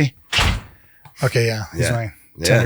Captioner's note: door thuds